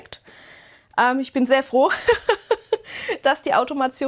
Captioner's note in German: Gelächter